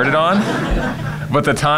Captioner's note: laughter